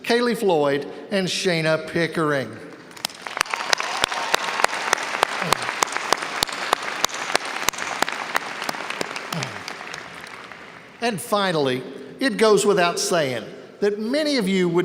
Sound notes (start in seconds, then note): 3.0 audience cheers and applauds